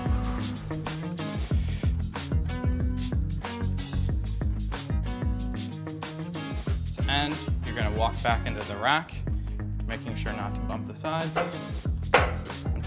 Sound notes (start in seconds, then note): 1.3 inhaling; 1.4 exhaling